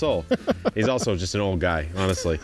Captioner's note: laughs